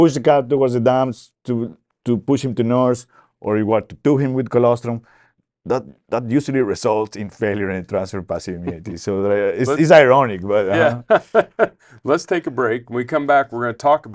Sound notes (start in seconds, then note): 10.7 chuckles